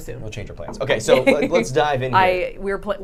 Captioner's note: laughs